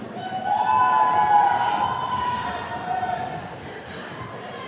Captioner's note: attendees cheering